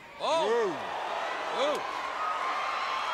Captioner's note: crowd chatter